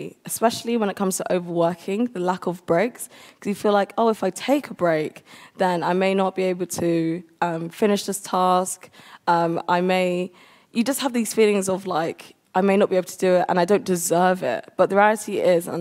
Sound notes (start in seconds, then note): none